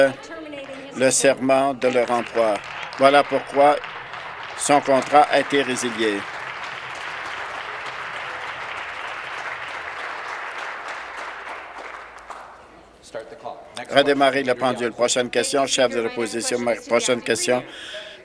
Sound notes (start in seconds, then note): 5.9 some Applause